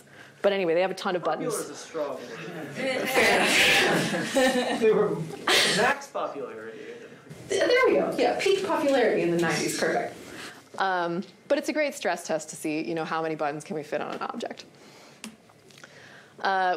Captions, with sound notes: But anyway, they have a ton of buttons. Popular is a strong word. [LAUGHTER] They were-- max popularity. There we go. Yeah, peak popularity in the '90s. Perfect. But it's a great stress test to see how many buttons can we fit on an object.